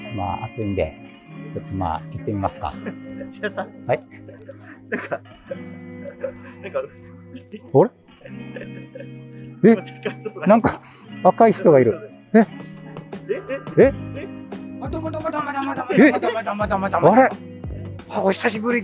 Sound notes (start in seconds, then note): 5.0 laughing